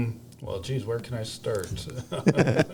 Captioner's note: laughs